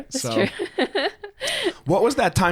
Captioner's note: both laughing